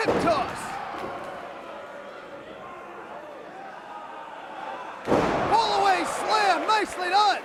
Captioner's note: crowd chatter